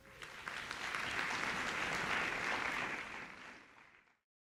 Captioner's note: audience applause